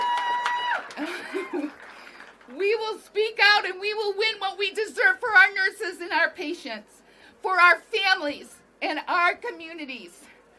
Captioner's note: applause